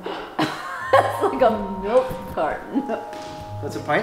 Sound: laughs

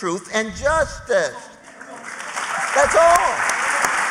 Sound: applause

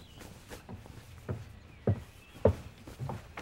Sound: footsteps approaching

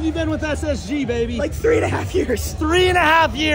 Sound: laughs

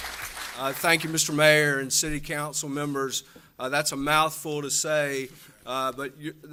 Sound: applause

